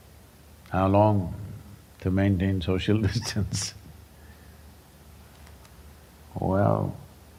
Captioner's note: laughs